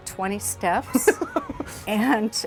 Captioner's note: laughing